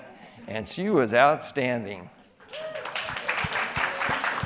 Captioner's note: applause